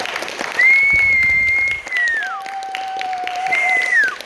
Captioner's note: applause